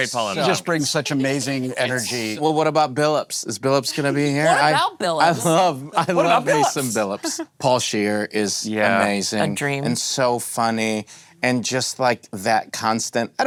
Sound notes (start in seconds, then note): 5.9 laughing